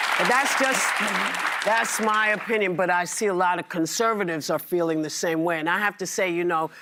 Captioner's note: applause